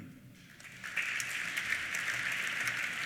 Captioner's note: applause